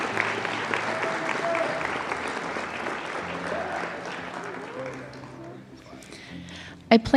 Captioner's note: applause